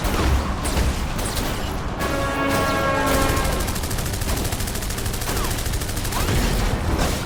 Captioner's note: guns firing; laser blasting